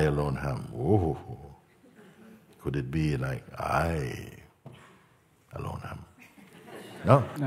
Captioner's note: Lachen